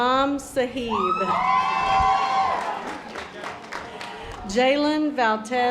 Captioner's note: audience applause